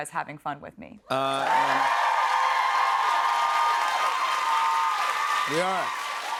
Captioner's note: cheers and applause